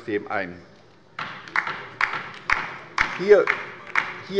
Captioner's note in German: Beifall bei der LINKEN